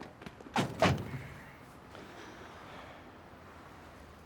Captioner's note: doors thudding